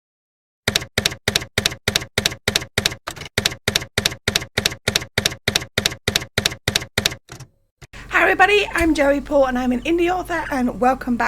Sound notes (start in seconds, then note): 0.6 typewriter keys clacking